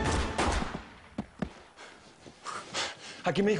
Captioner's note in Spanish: Disparos